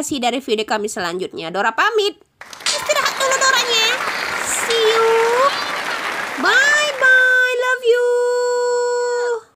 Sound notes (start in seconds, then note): 6.4 applause